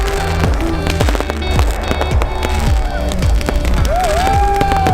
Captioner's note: fireworks exploding; people cheering